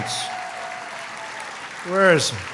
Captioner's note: applause